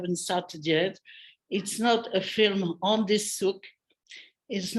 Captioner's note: non-english speech